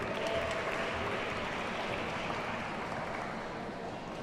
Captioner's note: audience applauds